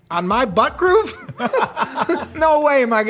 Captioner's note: laughing